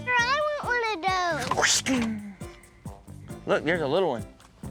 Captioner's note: fighting sounds